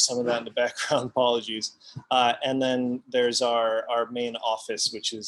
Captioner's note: laughs